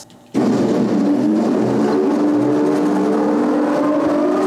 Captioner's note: loud, fast whirring, roaring, rattling